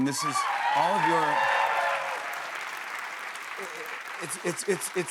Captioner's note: cheers and applause